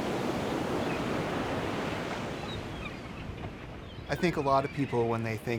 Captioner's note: seagulls calling